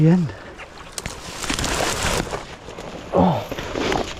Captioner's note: water sloshes